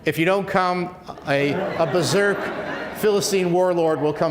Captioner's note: laughs